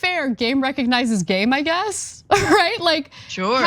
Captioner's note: laugh